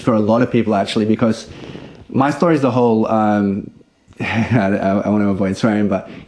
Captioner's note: chuckles